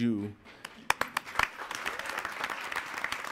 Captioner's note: applauding